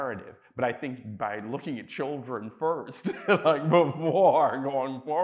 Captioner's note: chuckles